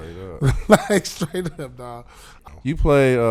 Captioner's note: laughing